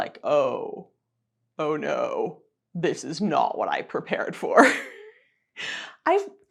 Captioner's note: chuckling